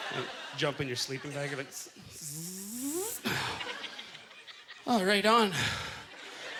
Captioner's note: zipping sound